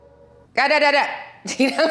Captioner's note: Milla shouting robotically; Milla laughing amusingly